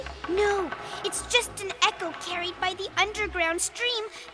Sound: clopping sound

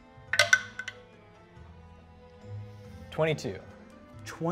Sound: dice rolling

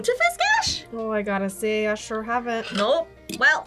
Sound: "Minnesotan" accent

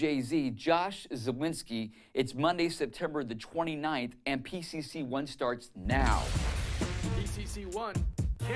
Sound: boom

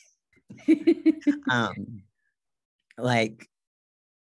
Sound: laughs

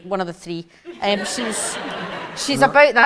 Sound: audience laughs

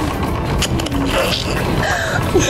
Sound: laughing

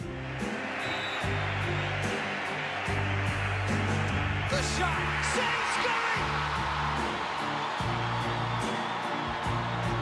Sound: cheering

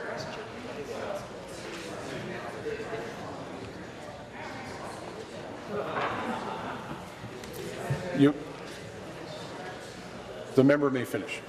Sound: voice trailing

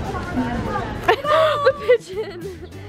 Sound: laughing

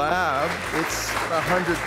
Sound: audience applauding

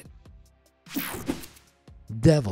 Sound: techno sound effect

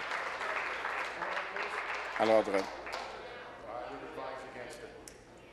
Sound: applause

